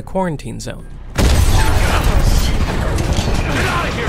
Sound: explosion

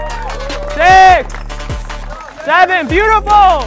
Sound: crowd cheers and claps

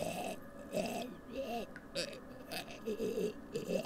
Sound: choking sounds

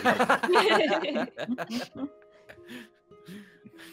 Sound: multiple chuckling

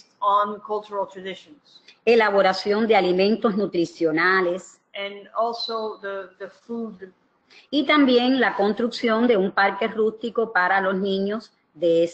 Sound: speaking another language; speaking another language

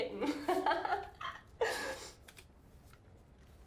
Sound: laughing

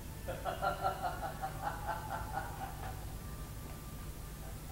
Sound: evil laugh of the soldier

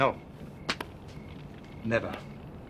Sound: light smack

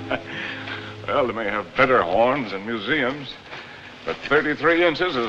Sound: laughs

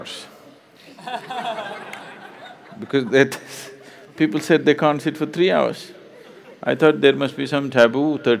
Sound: laughter

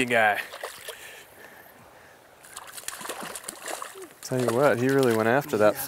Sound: splash

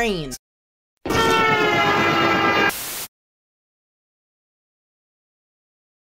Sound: train sound

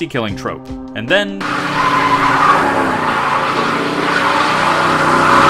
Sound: sound of car accelerating and tires squealing

